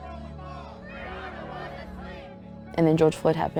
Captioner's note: protest chanting